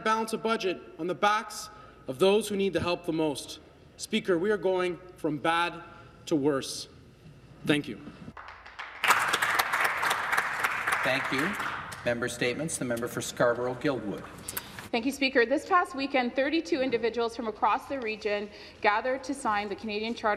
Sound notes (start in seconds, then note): 11.8 some Applause